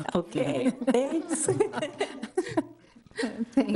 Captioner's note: everybody laughing